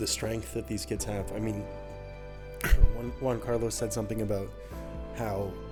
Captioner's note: clears throat